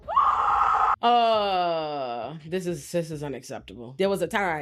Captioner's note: screaming